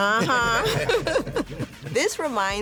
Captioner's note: laughter